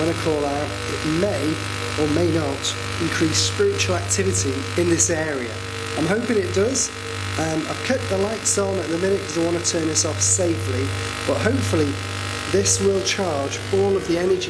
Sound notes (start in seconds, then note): none